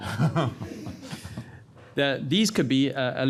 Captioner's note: panel chuckles